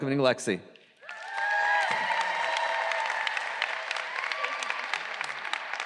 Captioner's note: audience cheering and applause